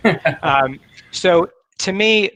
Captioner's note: laughs